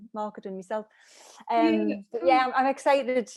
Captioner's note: noise of agreement